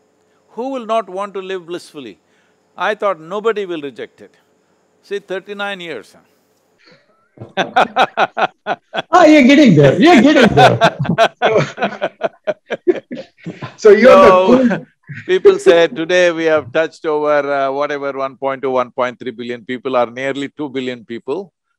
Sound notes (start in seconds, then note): 7.4 laughs; 13.0 laughter